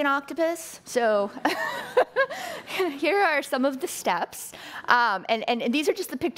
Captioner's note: laughing